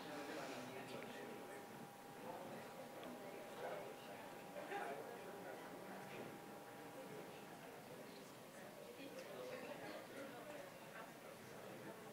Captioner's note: general chatter